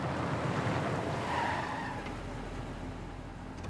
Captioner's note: tire squeal